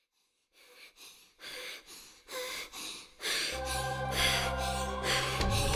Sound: heavy breathing

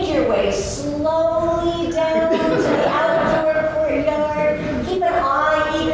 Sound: laughter

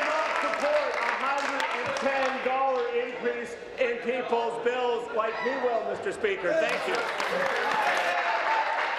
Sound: applause

